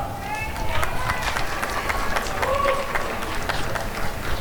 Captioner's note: applause and cheering